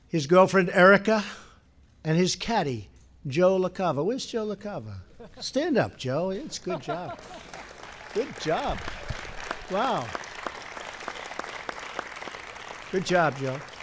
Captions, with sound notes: his girlfriend Erica; and his caddy Joe LaCava. Where’s Joe LaCava? Stand up, Joe. He does a good job. Good job. (applause) Wow. Good job, Joe.